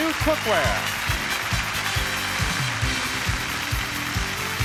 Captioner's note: audience cheers and applauds; upbeat music